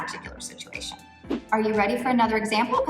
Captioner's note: air whooshing